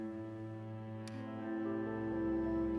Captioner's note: none